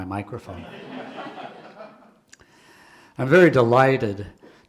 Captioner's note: audience laughing